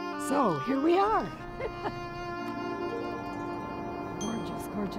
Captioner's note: chuckles